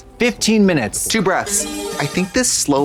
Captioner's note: bright chime